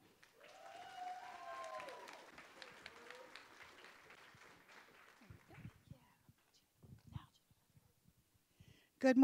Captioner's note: applause